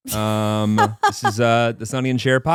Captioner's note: laughing